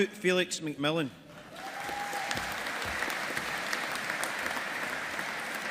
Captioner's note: audience applauding